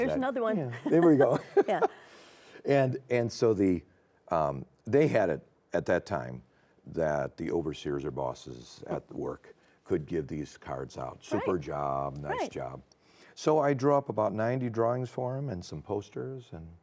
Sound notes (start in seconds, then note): 0.8 laughs